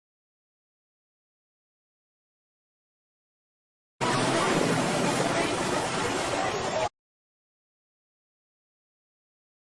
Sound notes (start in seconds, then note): 4.0 waves splashing